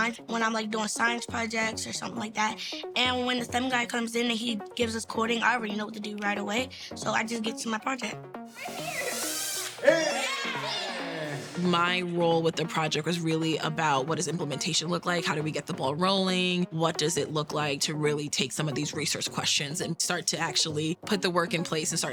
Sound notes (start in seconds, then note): 8.5 cheerful music; 8.6 people cheering